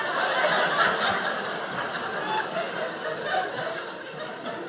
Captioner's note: audience laughing